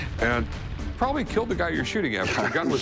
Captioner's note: laughs